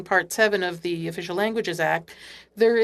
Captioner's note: speaking French